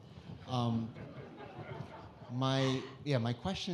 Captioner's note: audience laughing